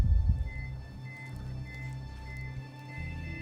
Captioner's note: heart monitor beeping rapidly